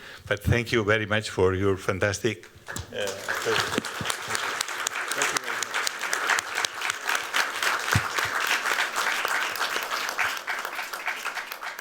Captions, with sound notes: But thank you very much for your fantastic presentation. Thank you. [APPLAUSE]